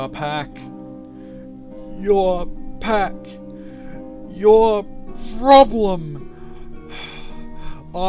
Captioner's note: gasp